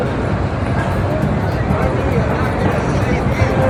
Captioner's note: Street sounds in Times Square